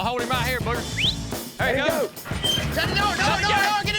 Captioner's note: whistles, yelling